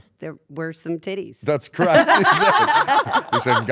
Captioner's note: laugh